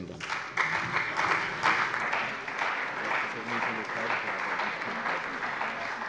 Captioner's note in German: Beifall bei der CDU und dem BÜNDNIS 90/DIE GRÜNEN